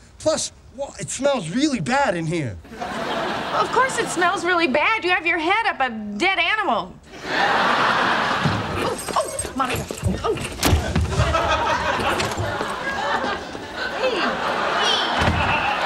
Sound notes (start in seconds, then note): 2.7 audience laughing; 7.1 audience laughing; 10.7 turkey slamming; 10.8 audience laughing